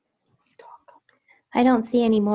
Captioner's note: person whispers